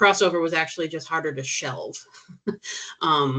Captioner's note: chuckling